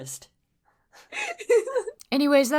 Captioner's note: laughter